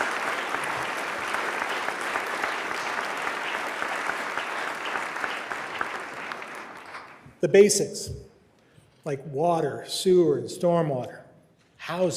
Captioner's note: applause